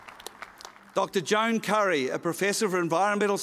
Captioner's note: applause